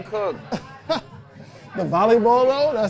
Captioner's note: laughing